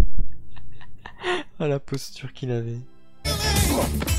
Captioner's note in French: rires